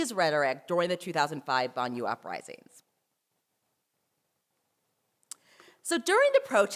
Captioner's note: french